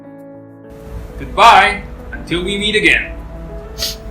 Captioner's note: sniffs